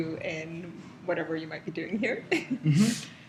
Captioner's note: laugh